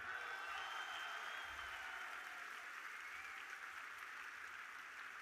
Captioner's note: audience cheering